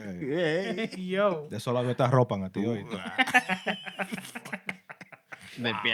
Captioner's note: laughter; non-english Speech